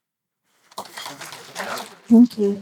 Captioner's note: applause